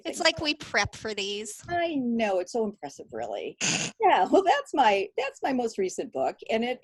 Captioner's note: snorts